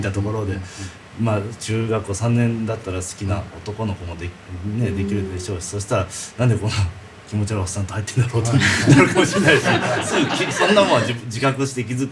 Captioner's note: laughs